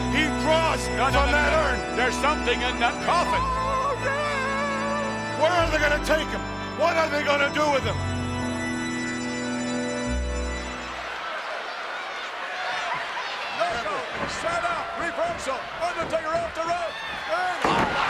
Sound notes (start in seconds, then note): 10.7 audience cheers